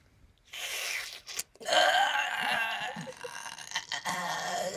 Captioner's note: groans